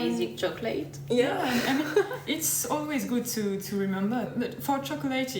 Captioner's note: laughs